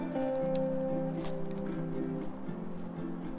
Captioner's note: tapping on beer can